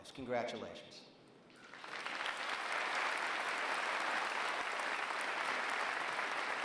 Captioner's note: applause